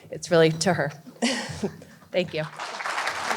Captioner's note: laughs